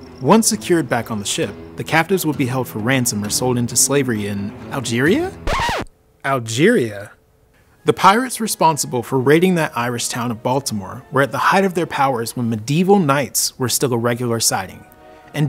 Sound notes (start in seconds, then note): 5.4 record scratches